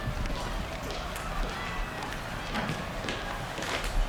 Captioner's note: feet shuffling